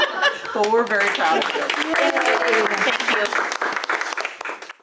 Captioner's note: laughter; applause